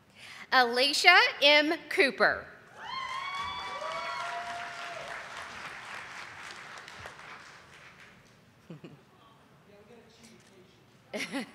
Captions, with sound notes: Alicia M. Cooper. (audience applauding)